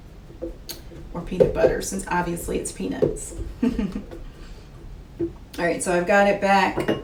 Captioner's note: laughs